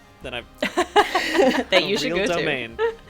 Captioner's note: laughing